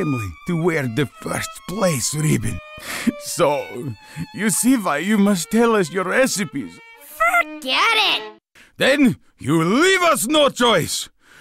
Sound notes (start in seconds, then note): 2.8 tearfully